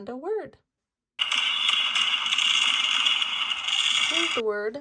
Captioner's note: fireworks bang